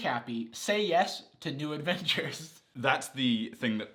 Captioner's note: laughs